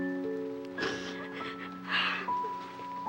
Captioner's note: sniffles